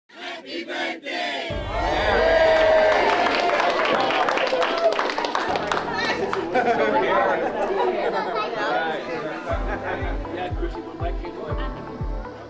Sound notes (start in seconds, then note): 1.6 crowd cheers and applauds; 7.6 upbeat music plays